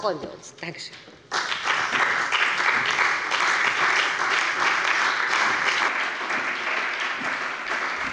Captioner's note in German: Beifall bei dem BÜNDNIS 90/DIE GRÜNEN und der CDU